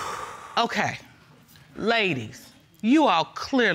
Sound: exhales sharply

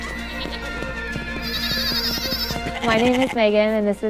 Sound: bright music; goats bleating

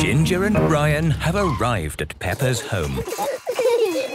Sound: phone ringing; giggling

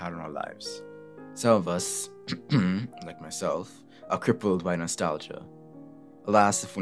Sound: cough

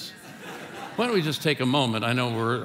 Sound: congregation laughing

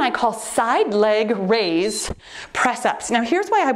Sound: timer beeps

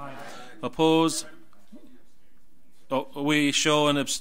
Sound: overlapping chattering

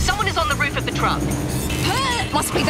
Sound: grunt

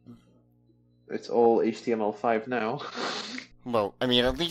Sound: nervous laughing

